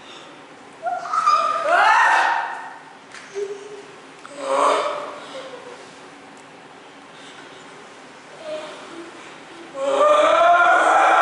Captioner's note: CHORUS cry out in horror